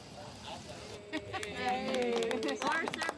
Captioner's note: clapping